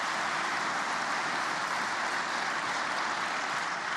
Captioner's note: applause